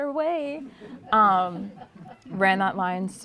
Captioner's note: laughter